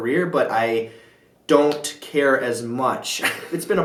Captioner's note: chuckle